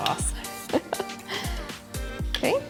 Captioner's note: chuckles